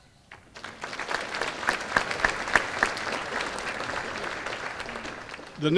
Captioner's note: applause